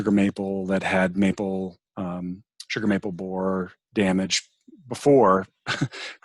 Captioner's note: chuckles